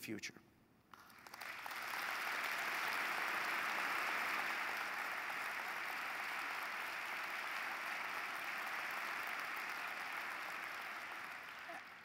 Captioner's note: applause